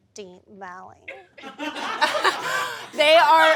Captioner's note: audience laughs